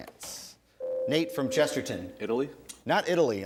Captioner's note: ding